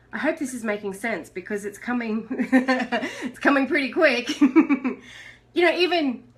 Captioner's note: laughs